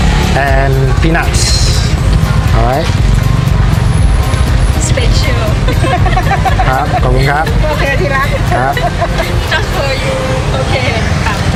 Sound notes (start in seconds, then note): 5.6 laughing; 7.6 OK darling? .. Laughing